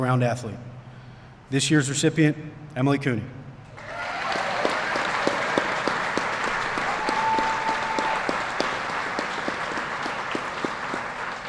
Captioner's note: applause